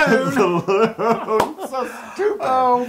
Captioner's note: laugh